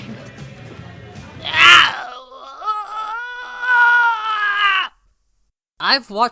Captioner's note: groan of agonizing pain